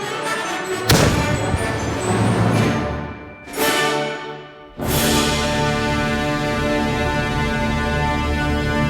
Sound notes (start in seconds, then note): 2.7 cannon fires